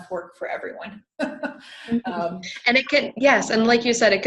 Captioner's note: laughing